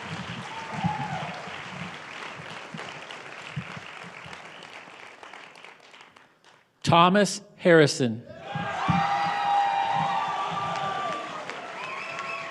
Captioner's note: applause